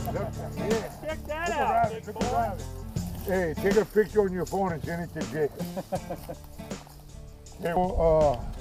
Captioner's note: chuckling